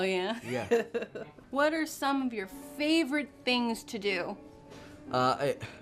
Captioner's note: laughter